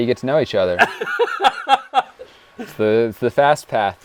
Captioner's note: laughs